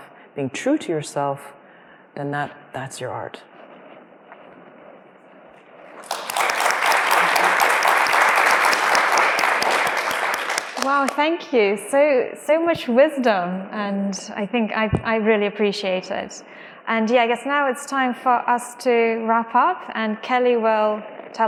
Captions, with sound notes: being true to yourself, then that's your art. (applause) Wow, thank you, so much wisdom, and, I think, I really appreciate it, and yeah, I guess now it's time for us to wrap up and Kelly will tell us